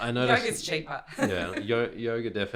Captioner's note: laughs